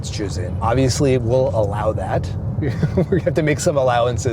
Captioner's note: laughs